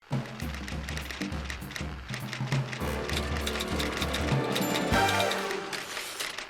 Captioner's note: typewriter clacking; upbeat music